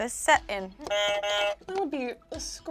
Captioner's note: buzzer buzzes